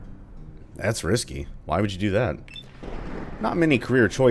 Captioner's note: thunder